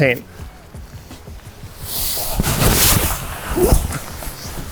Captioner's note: polyester exhales